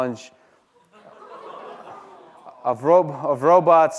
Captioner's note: laughter